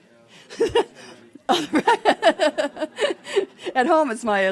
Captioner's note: laughing